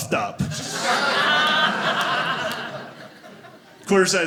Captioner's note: audience laughing